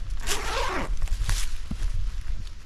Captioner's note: zipper